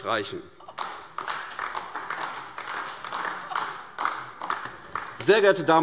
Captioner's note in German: Beifall AfD - Zurufe BÜNDNIS 90/DIE GRÜNEN